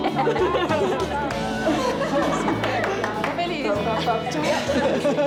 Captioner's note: laughs